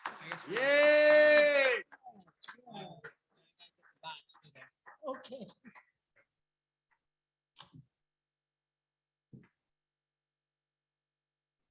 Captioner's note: audience appluades